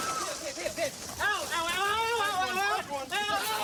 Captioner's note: screaming